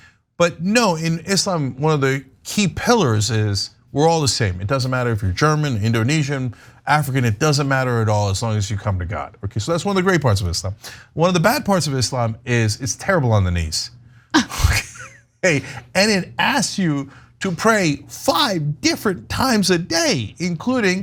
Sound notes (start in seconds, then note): 14.3 laugh